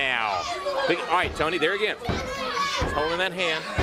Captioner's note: crowd chatter